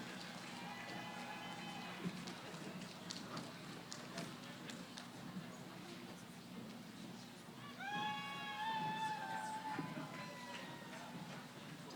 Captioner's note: cheering